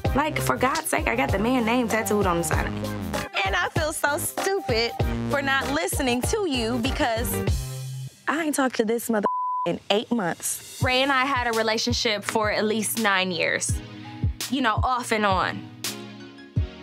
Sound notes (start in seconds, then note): 9.2 beep